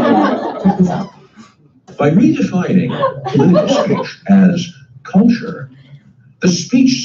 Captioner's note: laughter; laughter